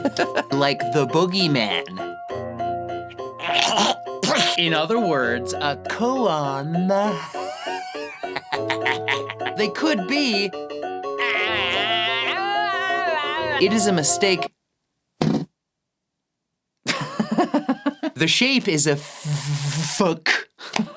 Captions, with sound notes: like The Boogeyman in other words a Kōan... they could be it is a mistake........ *literal fart* The Shape is a ffffffFUG